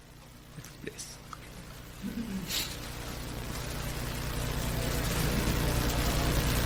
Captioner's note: video murmurs in the background